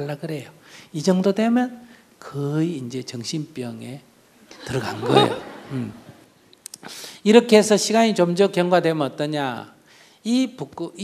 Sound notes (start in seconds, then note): 4.6 audience laughs